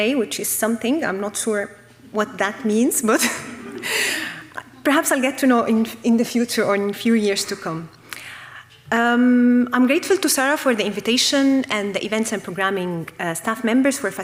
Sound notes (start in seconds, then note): 3.2 audience laughing